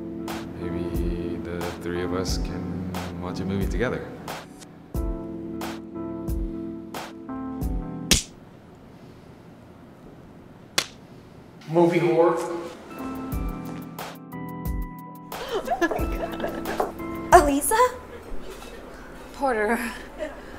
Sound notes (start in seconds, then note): 8.1 slap; 10.8 slap; 15.4 laughing